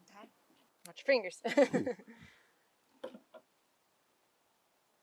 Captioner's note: interviewer laughing